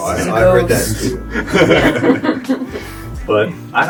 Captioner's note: laughs